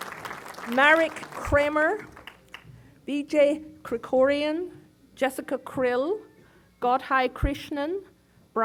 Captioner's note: applause